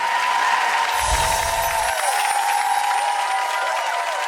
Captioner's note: audience cheers; wind chimes ring